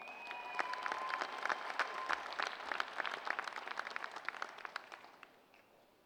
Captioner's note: applause